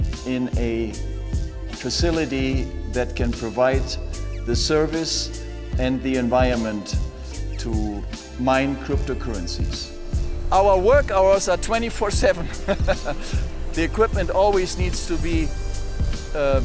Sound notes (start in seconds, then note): 12.2 laughs